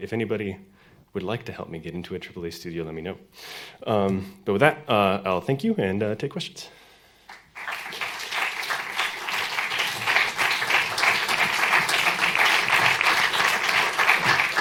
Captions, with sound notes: so if anybody would like to help me get into AAA studio let me know. But with that I'll thank you and take questions. [APPLAUSE]